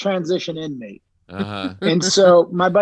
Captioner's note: laughing